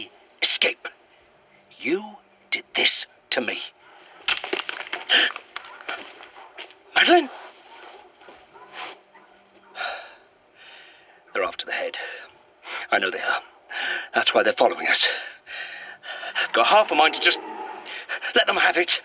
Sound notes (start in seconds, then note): 6.9 closer twig snap